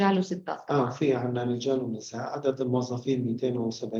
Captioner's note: speaking arabic